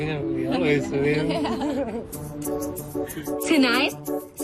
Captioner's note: both chuckle